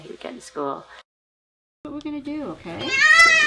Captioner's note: screams